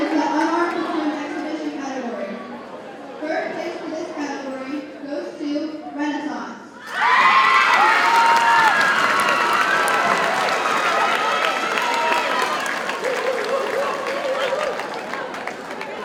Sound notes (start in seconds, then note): 6.8 audience cheers and applauds